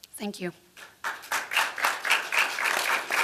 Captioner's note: applause